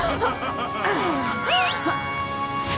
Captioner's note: evil laugh; beckoning whistle